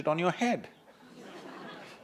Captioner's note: laughter